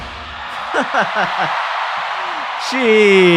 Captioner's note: laughs